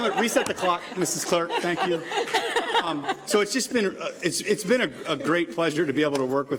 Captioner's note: laughter